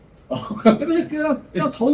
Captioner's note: laughs